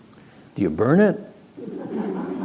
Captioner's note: laughter